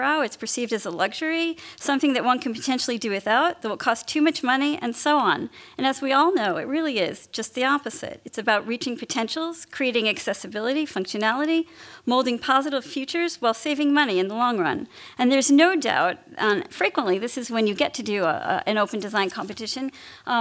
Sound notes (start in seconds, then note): none